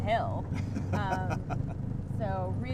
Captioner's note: laughing